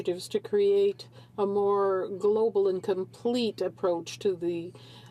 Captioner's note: speaking in french